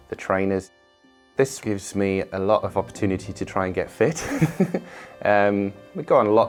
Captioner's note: laughs